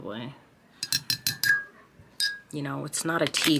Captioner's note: spoon clinking